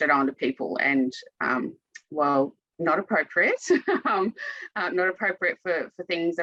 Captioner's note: chuckles